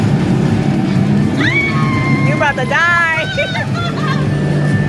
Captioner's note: screams